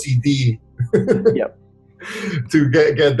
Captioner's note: chuckles